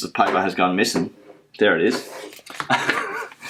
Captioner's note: paper sliding; laughs